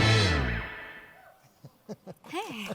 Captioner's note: audience member hooting; laughing